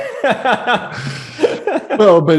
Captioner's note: laughs